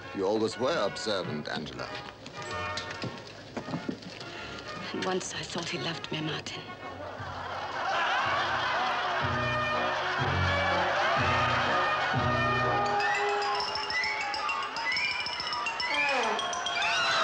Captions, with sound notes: - You always were observant, Angela. - And once, I thought he loved me, Martin. (audience laughing) (light orchestral music)